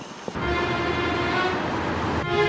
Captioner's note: vehicle approaches